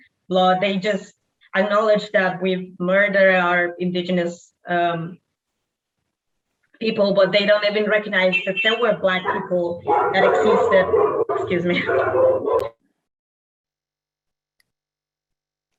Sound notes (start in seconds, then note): 9.0 dogs barking